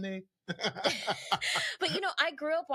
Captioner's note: laughing